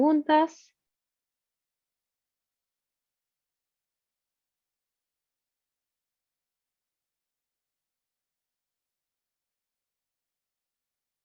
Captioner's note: silencio